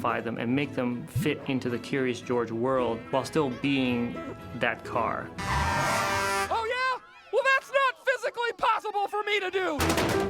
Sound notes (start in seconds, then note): 5.3 horn blares